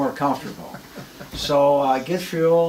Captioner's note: laughs